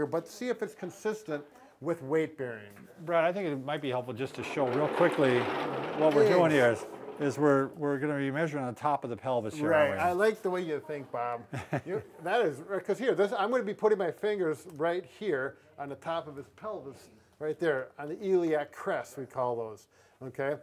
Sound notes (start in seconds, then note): 3.9 wheels scrapping the floor loudly; 11.4 chuckles softly